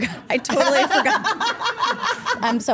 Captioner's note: Steph laughs